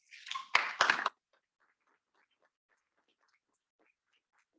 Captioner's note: students clapping